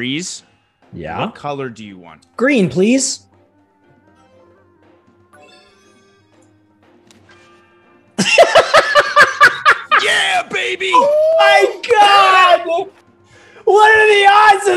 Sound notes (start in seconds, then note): 8.2 laugh